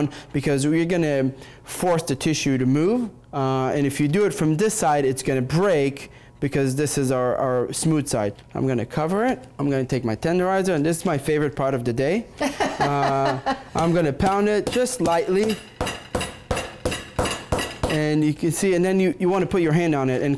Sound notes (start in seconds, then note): 12.4 laughs; 15.4 table slams